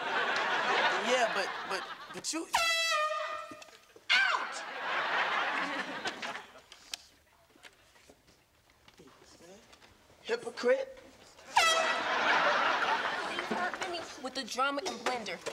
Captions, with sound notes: - Yeah, but, but you… - Out! Hypocrite! [air horn blowing] She’s working me with the drama and blender!